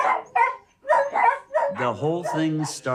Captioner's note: dogs barking